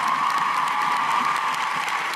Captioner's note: cheers and applause